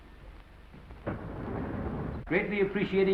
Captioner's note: doors slide open